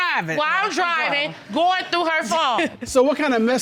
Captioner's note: chuckles